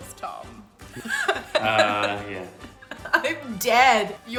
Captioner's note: laughing